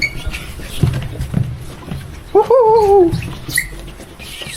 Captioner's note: shoes kept scraping the floor